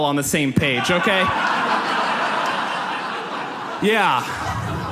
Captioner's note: audience laughs